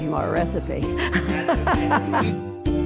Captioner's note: laughing